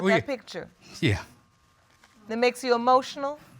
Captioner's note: voice breaking